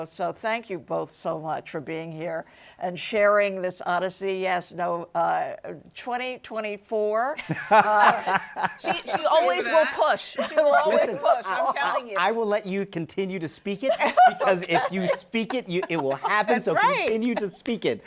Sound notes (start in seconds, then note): 7.4 laughs